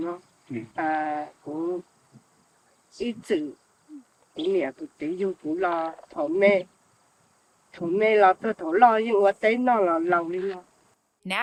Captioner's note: speaking in foreign language